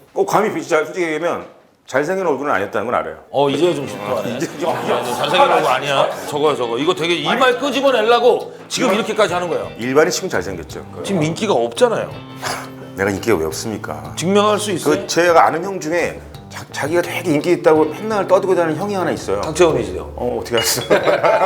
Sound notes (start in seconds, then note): 12.3 snicker; 20.7 hahaha